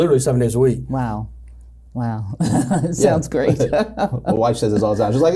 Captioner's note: laughs